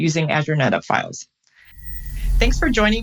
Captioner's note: air whooshes